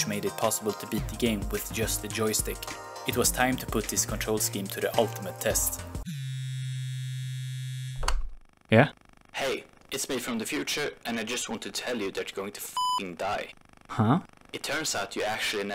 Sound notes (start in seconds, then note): 6.0 phone buzzing; 8.7 distorted voice; 14.0 distorted voice